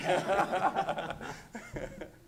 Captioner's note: laughter